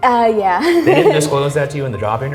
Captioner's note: giggles nervously